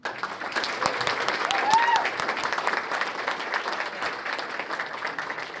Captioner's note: cheers and applause